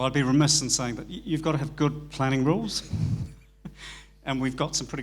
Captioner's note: laughs